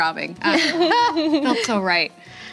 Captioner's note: laughing